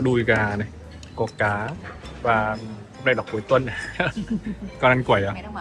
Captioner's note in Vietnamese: tiếng cười